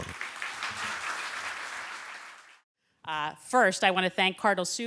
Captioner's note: applause